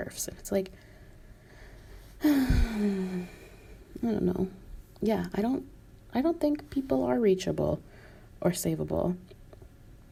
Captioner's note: sigh